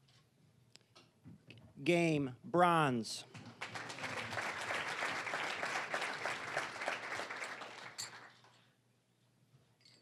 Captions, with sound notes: Game, bronze. (applause)